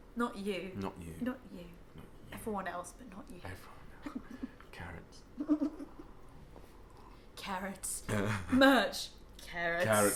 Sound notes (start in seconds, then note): 5.4 laughs; 8.0 laughs